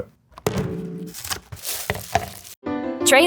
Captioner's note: pizza clanging; plastic crinkling; cheerful music